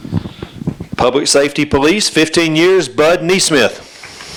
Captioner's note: applause